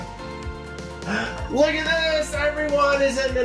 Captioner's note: upbeat, exciting music; gasping